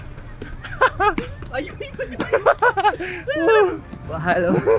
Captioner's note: laugh